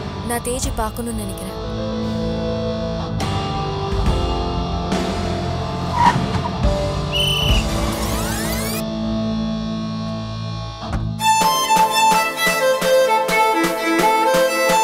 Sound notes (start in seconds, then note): 7.1 whistle blows; 7.1 brakes squeal